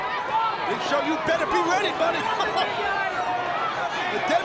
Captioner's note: chuckles